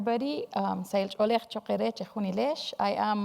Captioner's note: speaking in foreign language